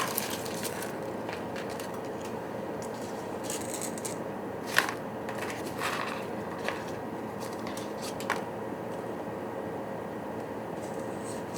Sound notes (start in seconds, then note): 5.3 fumbling